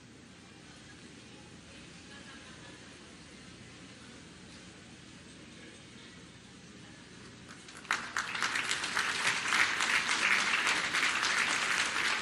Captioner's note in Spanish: aplausos